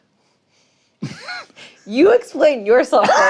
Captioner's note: chuckles